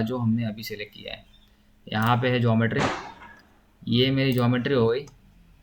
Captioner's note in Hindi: नाक से की जाने वाली आवाज़